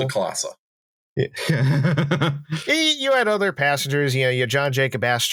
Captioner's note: laughs